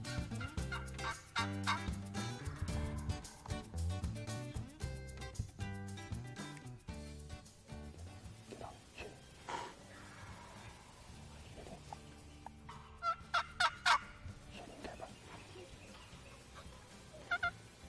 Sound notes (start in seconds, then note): 0.3 turkey call yelps; 12.6 turkey call yelps